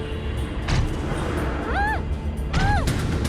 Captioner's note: grunting continues